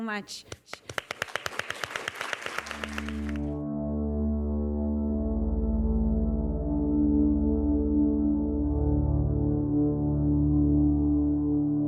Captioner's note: applause